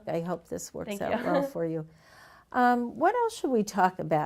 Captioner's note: chuckles